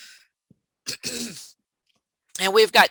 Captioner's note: clears throat